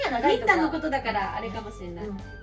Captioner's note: laughs